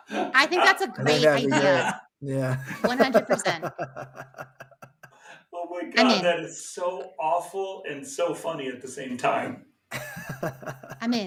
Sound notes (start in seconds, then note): 2.3 laughs; 9.9 chuckles